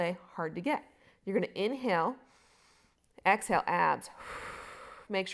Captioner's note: exhaling